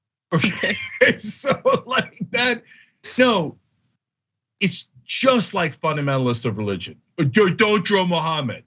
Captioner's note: laugh